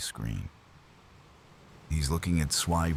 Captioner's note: wind Blowing